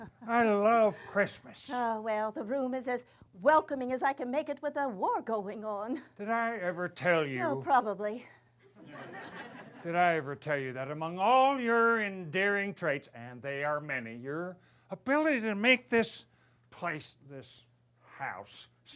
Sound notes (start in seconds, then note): 8.7 laughter